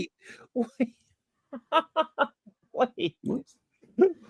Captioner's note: laughs